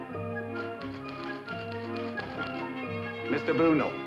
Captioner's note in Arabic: صوت الآلة الكاتبة